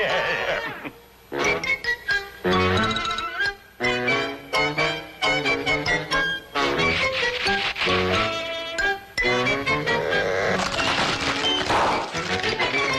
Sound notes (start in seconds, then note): 0.1 lively music; 6.8 hands scratching sandpaper; 10.5 safe crashing